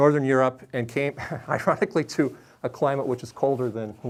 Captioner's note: chuckles